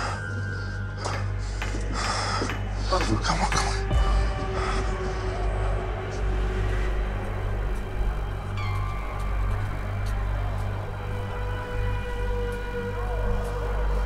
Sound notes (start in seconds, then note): 0.2 suspenseful music; 3.7 voices shouting in distance